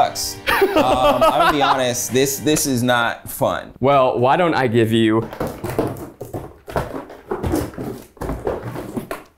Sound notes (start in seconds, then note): 0.5 laughing; 5.2 cord rattling